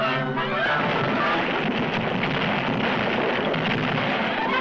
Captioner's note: stone crashing